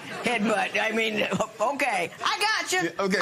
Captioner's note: laughter